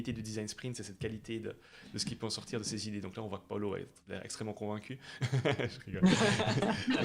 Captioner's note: laughs